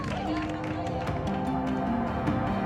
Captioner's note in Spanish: Aplausos